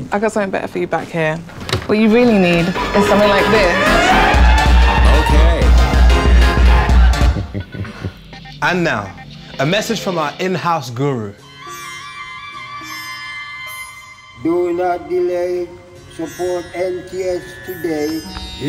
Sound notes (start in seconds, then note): 4.0 music blasts; 7.0 laughs; 11.4 whistle plays